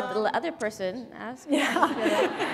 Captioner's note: laughter